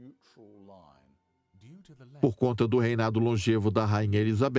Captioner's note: voiceover